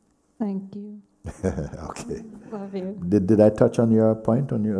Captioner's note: laughs